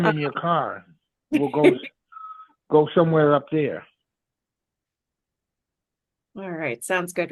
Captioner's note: laughter